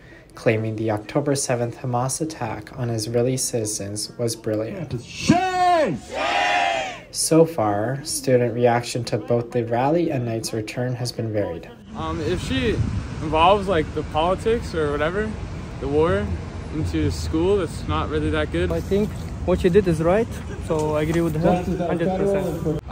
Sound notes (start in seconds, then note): 5.1 crowd